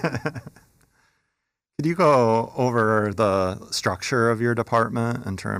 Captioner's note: laughs